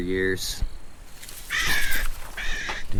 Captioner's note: grass rustling; bird screams